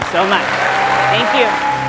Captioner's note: audience applauds